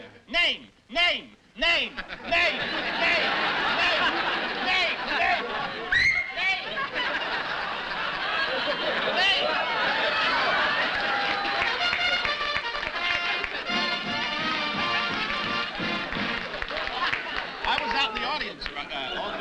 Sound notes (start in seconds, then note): 5.9 whistles; 6.2 laughter; 11.5 trumpet flare